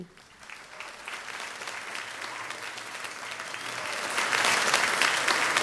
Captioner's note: audience applauding